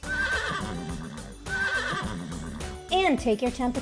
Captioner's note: horse neighing